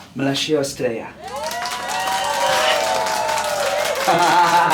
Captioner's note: audience clapping and cheering; laughing